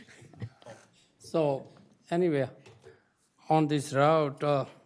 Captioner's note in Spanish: risas